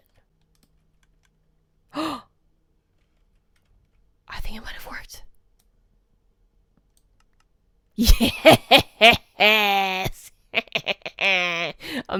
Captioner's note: gasp